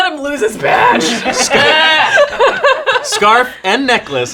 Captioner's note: laughing